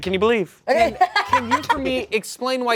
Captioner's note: laughs